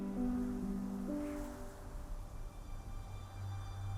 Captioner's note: wind howling